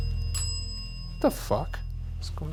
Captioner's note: bell ringing